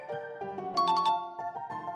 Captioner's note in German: Klaviermusik; Klingeling